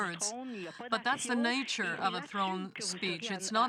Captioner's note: speaking French